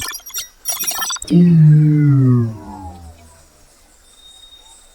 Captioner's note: female prototype blipping; shields whir